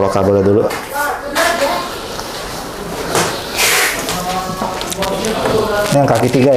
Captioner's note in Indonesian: suara kabel